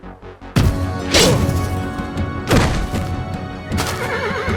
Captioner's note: N00bly grunts; B0NER spooks and whinnies